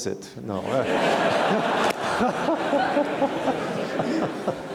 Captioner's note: audience laughing loudly